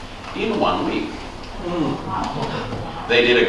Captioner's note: scattered 'wow's from audience